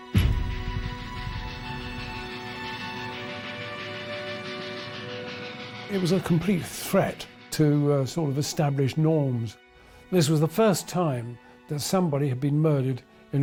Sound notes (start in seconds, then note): 1.4 dramatic music; 1.4 train chugging